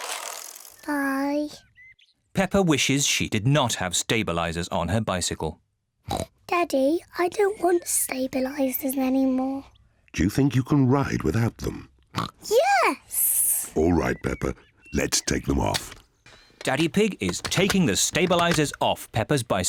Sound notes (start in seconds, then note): 6.1 snorts; 12.2 snorts